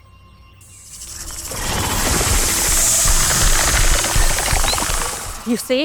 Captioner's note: snake hisses; snake rattles